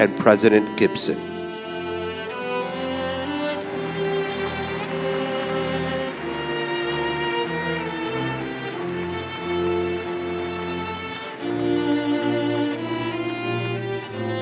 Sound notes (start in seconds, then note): 3.2 applause